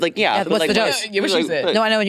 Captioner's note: participants chattering